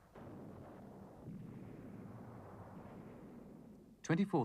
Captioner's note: guns firing